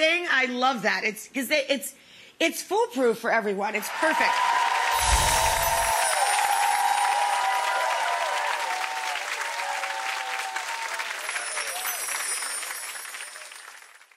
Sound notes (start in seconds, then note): 4.7 audience applauds; 10.9 chimes ringing